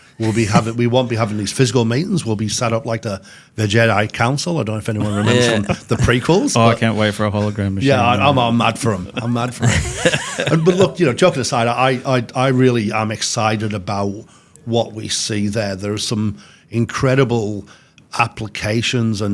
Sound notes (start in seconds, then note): 0.1 laughing; 9.6 laughs